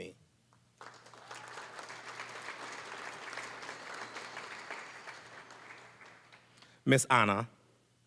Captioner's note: applause